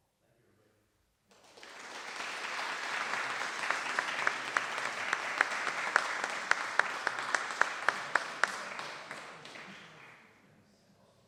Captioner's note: applause